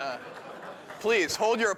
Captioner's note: laughter; applause